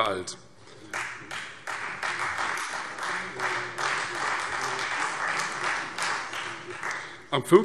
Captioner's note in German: Beifall Freie Demokraten